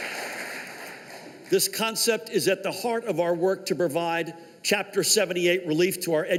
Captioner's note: applause